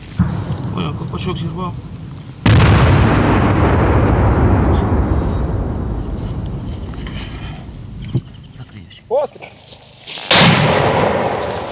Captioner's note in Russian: взрывы